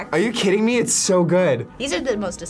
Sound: none

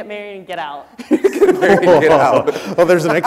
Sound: people laughing

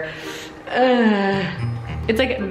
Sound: grunts

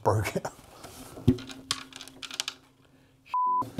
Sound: guitar rattles; beep

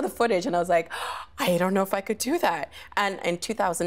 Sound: gasping

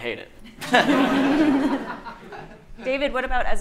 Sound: audience laughing

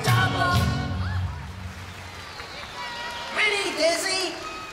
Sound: applause

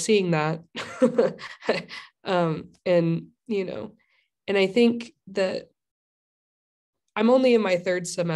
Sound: laughter

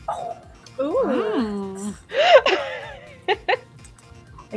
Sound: oohs and aahs

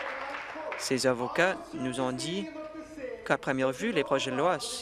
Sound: applause

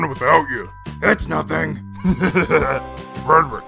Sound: chuckles

